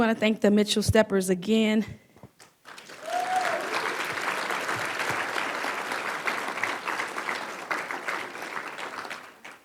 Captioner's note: applause